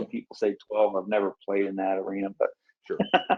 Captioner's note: laughs